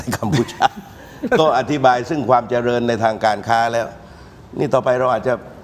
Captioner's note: laughter